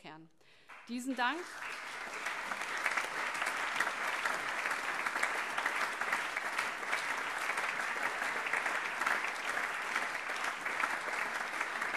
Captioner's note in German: Anhaltender allgemeiner Beifall